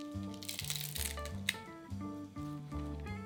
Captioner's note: breaking stems